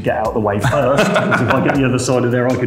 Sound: laughs

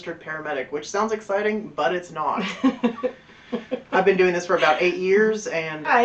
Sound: sarcastic voice

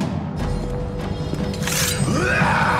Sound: sword unsheathes; man screams

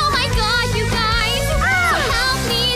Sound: screaming

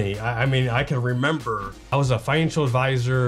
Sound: none

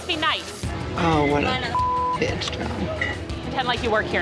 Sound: beep

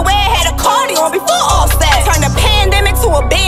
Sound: none

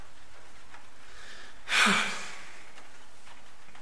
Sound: sighs

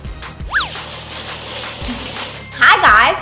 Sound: wheels grating

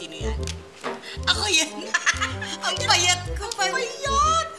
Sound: laughs

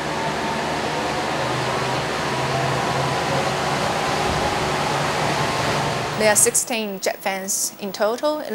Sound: jet fans extraction noise

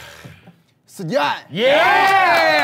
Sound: in Thai; sound of cheering

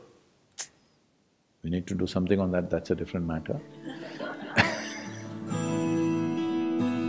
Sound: laughter

